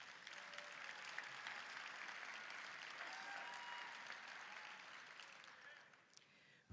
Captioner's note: applause, cheering